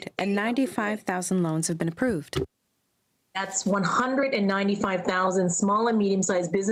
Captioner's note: speaking french